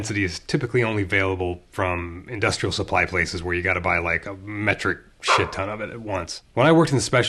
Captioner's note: bark